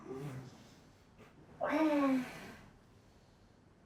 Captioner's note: moaning